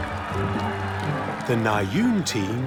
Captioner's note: cheering, applause